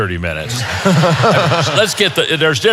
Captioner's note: audience laughing; chuckles